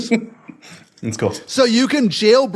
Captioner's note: laugh